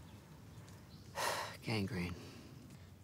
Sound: sighs

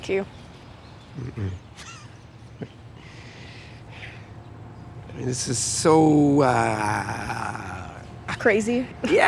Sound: laughs

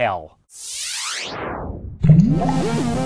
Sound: swish; techno music

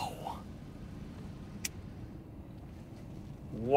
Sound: sparks lighter

